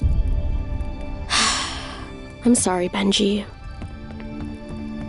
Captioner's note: sighs